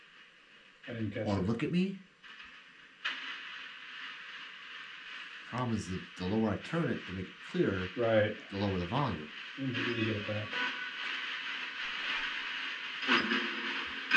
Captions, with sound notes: Or look at me? Problem is that the lower I turn it to make it clearer- - Right. - The lower the volume. (radio noise hissing)